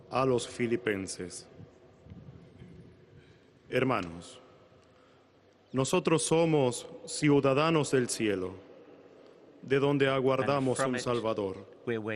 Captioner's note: speaking Alternate Language